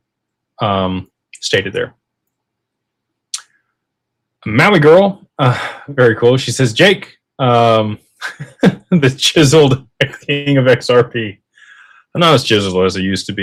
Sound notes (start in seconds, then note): 8.2 laughter